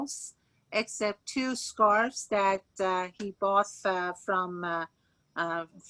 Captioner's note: speaking Farsi